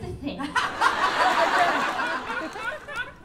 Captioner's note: laughter